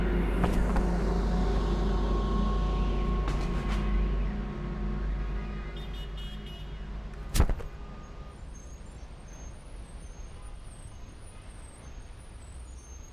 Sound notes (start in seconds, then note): 7.2 body thumping